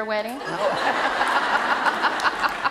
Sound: laughter

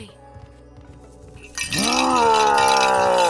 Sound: roars

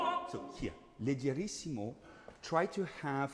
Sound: speaking in foreign language

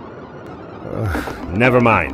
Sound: sigh

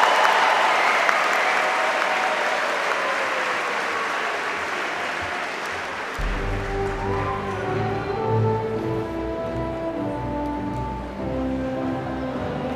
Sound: cheers and applause

